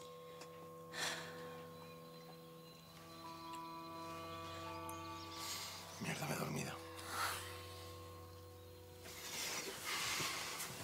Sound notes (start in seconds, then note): 0.9 sighs; 2.0 moans; 6.9 sighs